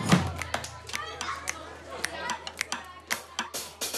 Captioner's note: students chattering